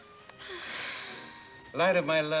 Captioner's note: Mrs. Hardy sighs